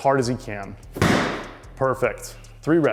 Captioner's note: ball slams